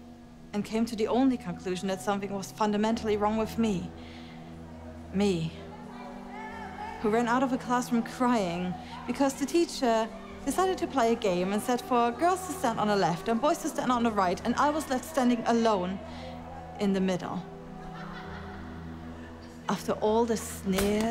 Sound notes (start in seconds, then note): 5.7 children shouting; 17.7 children laughing